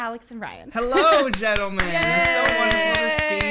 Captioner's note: applause